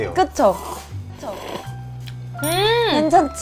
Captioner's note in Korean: 후루룩